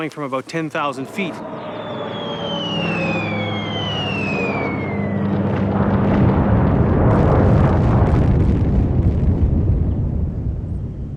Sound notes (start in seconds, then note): 1.6 jet engines roaring; 8.2 bombs exploding